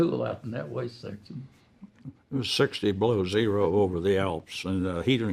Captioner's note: chuckling